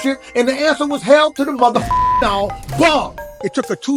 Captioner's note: beep